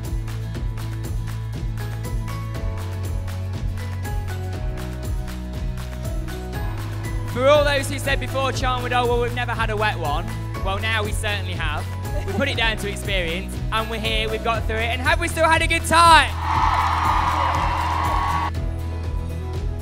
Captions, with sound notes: For all those who said before, "Oh well, we've never had a wet one", well now we certainly have! We'll put it down to experience and we are here, we've got through it, and have we still had a good time? [CHEERING]